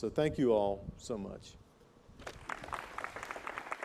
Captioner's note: applause